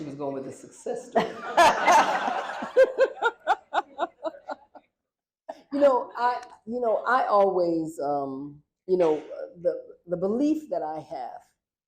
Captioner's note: laughter